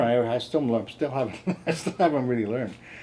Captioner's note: chuckles